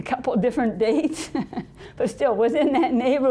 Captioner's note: laughing